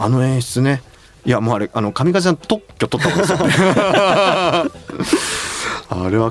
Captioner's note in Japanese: 笑い